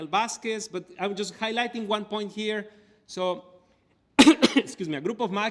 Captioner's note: cough